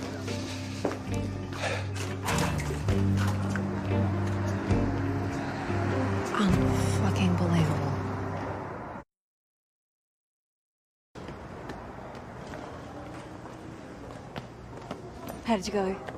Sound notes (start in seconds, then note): 1.5 sighs